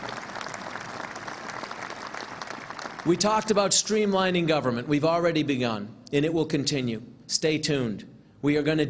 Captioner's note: applause